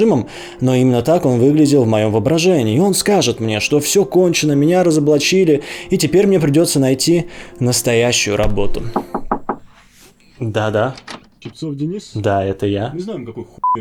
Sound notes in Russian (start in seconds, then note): 8.4 стук